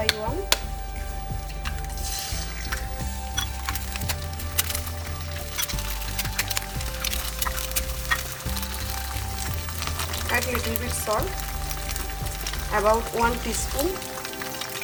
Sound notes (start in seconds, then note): 3.2 egg cracking sounds; 6.0 uplifting music